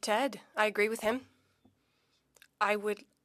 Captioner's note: speaking French